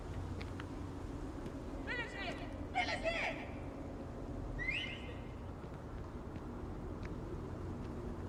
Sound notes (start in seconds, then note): 4.6 whistling